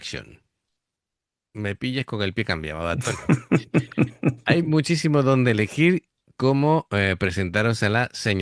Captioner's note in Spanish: risas